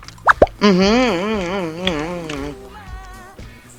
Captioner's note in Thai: เสียงพึงพอใจ